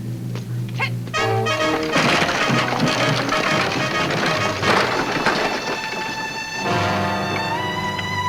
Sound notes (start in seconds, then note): 1.0 wagon rattles; 1.2 woman shouts; 3.3 exciting music